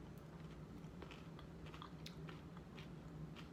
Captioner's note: chewing